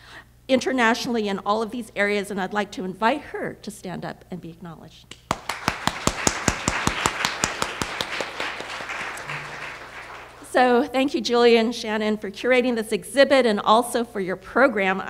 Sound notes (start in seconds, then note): 5.2 applause